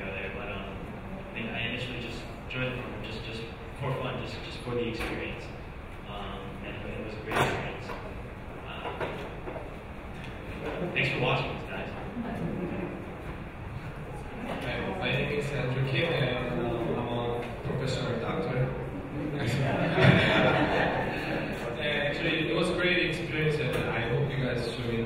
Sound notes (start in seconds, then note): 19.2 audience laughing